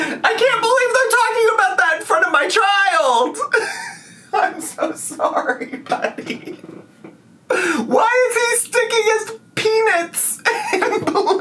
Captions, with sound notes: I can't believe they're talking about that in front of my child. I'm so sorry, buddy. (laughing) Why is he sticking his penis in bleach?